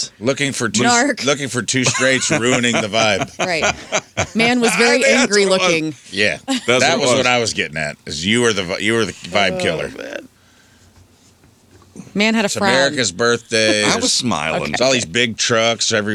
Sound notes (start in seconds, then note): 3.8 laughing